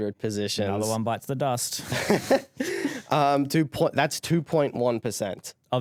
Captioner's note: laughing